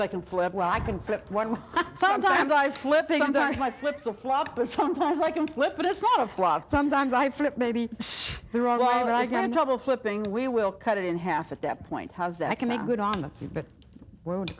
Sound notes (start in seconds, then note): 2.4 laughing